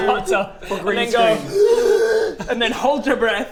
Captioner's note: gaaasp